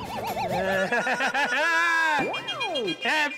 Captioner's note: laughing